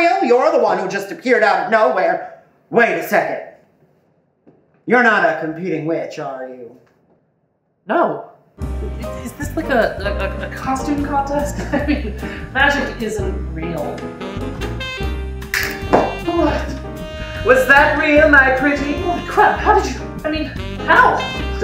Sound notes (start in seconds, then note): 15.5 snap